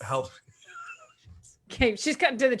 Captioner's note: laughs